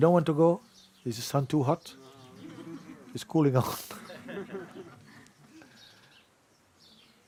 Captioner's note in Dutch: gelach